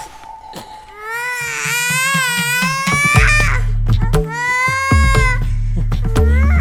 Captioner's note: Appoose begins crying